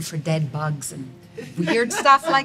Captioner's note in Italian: una donna ride